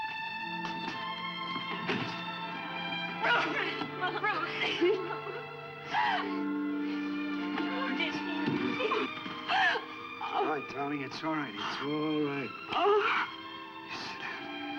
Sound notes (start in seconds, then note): 0.2 slow somber music; 5.8 sobs